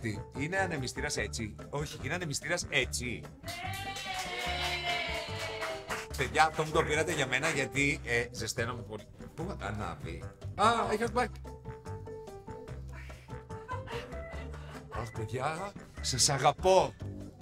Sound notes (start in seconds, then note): 3.4 applause; 13.5 laughing